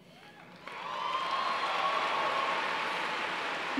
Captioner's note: applause